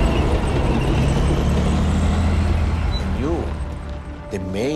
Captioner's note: tank rumbling